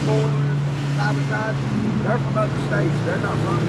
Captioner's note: truck whirring